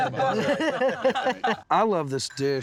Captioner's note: laughter